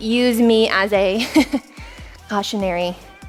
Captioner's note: chuckles